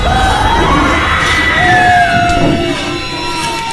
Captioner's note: screams